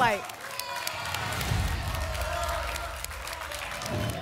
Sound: applause and cheering; whoosh

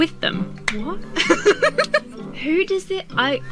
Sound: laughs

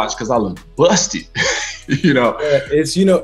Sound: laughs

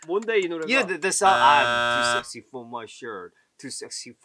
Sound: buzzer buzzes

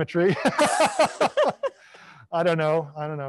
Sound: panelists laughing

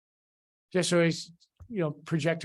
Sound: indistinct conversation

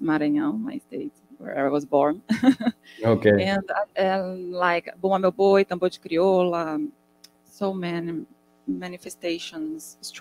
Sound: speaking in Portuguese

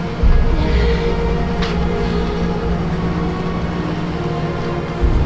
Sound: emma sighs

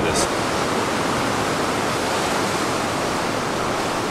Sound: sound of waves

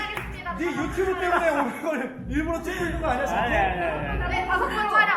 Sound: giggled

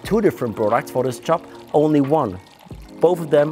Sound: liquid pouring

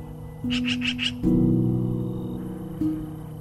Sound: sound of bird calling

